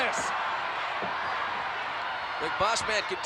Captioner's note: audience applauding